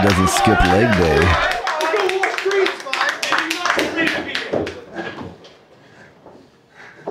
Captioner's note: audience cheering